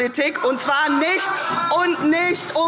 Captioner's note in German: Lachen AfD